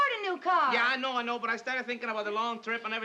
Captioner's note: none